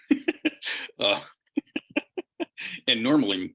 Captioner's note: laughs